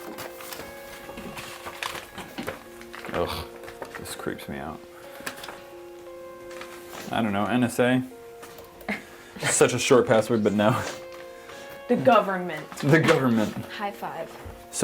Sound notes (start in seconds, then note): 3.1 disgusted noises; 8.8 group laughs; 13.1 laughs